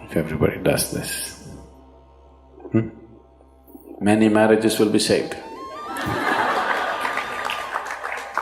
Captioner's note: laughter/Applause